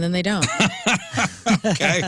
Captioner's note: laughing